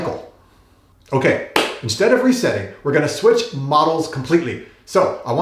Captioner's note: clap